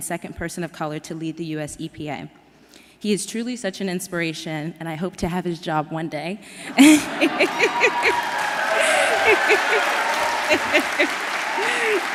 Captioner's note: applause